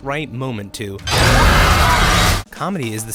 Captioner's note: screaming